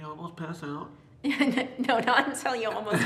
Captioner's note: laughs